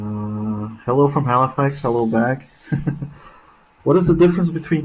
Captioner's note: laughing